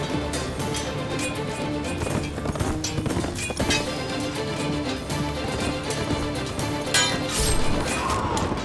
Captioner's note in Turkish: Dövüş sesleri; Müzik devam ediyor